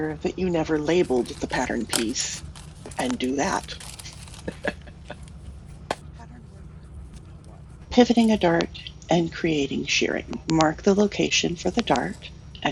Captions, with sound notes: that you never labeled the pattern piece and do that. [LAUGHS] Pivoting a dart, and creating shirring. Mark the Mark the new location for the dart and trace